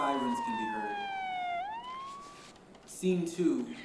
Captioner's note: distant siren